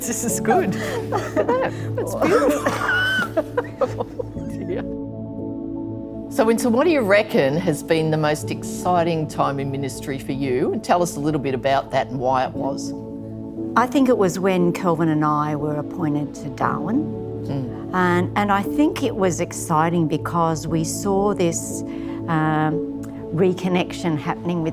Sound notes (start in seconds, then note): 3.0 laughs; 5.4 gentle music